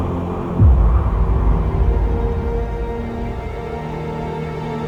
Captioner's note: wind howling